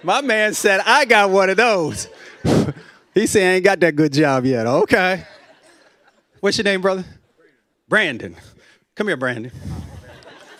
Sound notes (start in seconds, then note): 1.8 laughs; 5.1 laughter